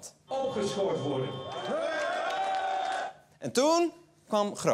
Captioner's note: cheering